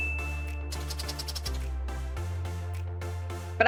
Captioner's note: bell dings; pen scratches